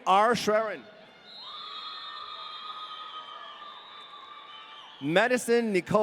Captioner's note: audience cheering